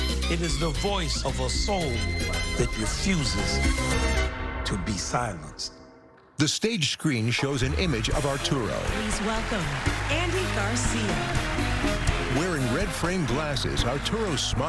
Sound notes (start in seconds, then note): 7.5 cheering and applause